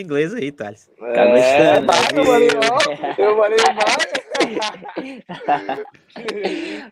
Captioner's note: laughs